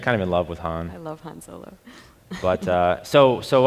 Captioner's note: laughs